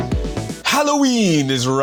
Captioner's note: dramatic villain voice